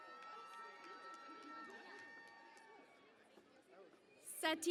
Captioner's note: cheering and Applause